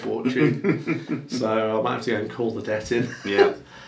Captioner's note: laughing; laughs